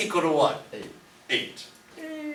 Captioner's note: voiceover